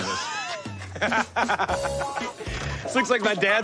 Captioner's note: laughs